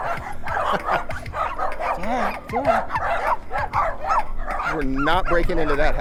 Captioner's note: dogs barking